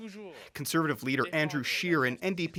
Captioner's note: speaking french